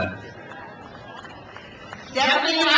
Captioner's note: crowd cheers